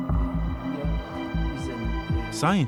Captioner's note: men speaking German